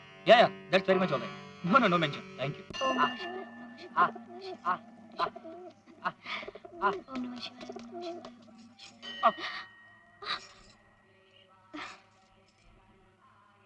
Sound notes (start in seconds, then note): 2.7 bell rings